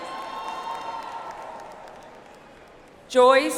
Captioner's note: audience applauds